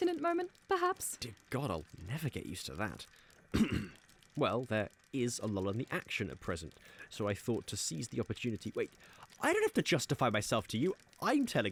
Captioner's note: clears throat